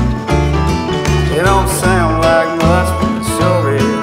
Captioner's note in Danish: Bifald